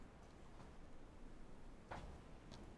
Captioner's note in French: none